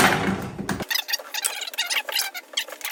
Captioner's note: scraping